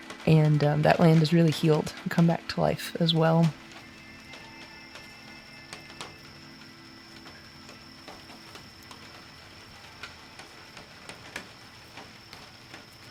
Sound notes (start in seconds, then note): 2.6 crickets chirping; 3.6 rain pattering